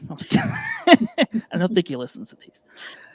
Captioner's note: laughing